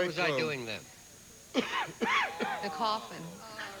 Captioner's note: coughing